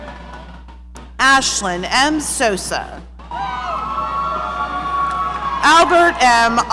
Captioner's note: audience cheering